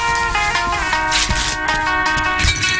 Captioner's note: cloth ripping